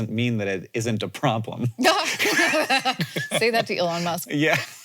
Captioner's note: both laughing